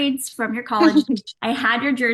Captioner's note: Paige laughing